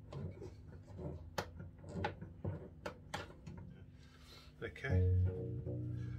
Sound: screwing sound

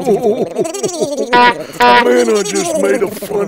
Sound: beep beep

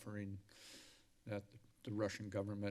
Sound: inhales loudly

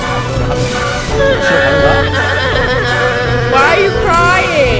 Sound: crying

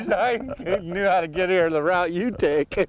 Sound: laughter

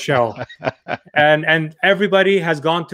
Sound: laughs

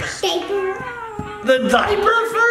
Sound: cooing

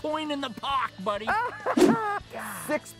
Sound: laughter

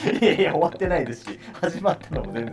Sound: laughing

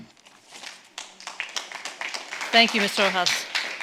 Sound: audience clapping

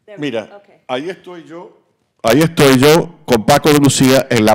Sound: speaking Spanish

